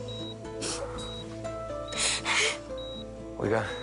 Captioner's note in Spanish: Sollozos